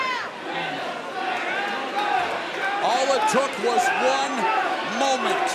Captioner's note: fans chanting